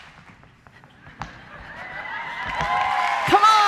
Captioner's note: laughter; applause